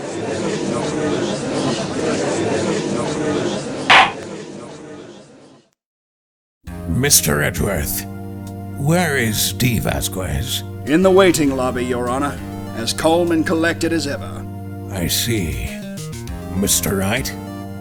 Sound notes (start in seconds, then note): 0.2 gallery chattering; 3.9 gavel slam!